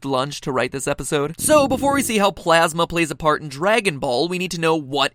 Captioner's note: MatPat's stomach gurgles